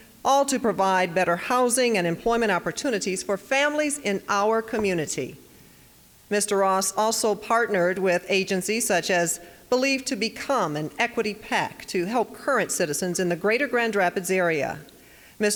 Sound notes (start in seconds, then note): none